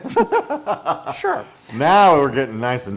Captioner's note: laugh